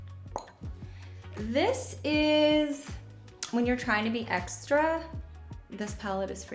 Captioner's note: clicks tongue